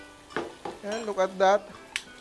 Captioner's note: sizzles